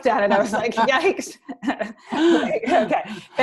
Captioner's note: laughter